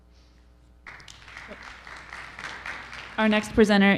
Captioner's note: audience applauding